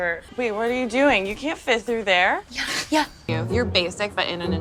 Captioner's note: laughs